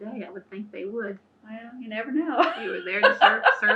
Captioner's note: laughs